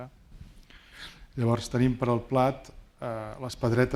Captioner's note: speaking spanish